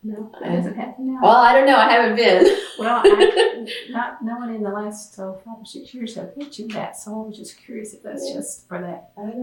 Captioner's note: laughs